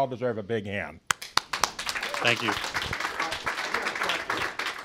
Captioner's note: applause